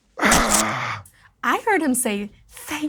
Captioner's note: grunts